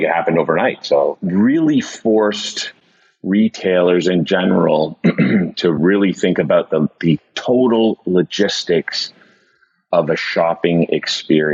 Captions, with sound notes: it happened overnight, so really forced retailers in general (clears throat) to really think about the total logistics of a shopping experience.